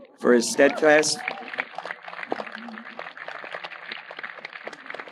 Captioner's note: audience applauding